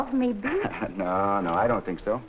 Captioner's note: Gorman chuckling